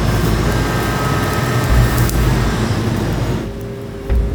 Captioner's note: branches snapping